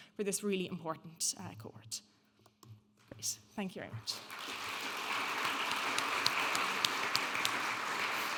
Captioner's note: audience applauding